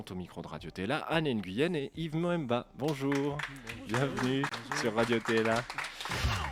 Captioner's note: applause